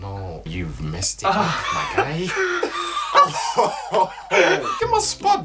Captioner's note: laughter